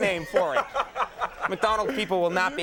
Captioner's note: Will laughing